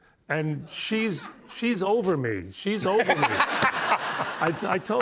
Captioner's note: laughter